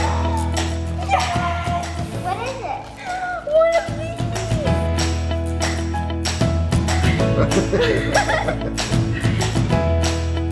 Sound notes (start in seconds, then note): 4.6 upbeat music; 7.1 laughter; 7.2 blows candles